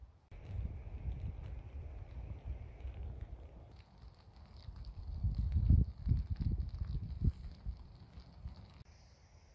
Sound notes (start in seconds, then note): 5.0 rain sounds